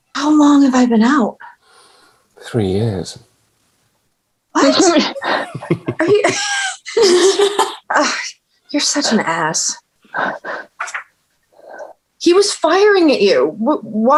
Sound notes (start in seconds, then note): 4.7 everyone laughing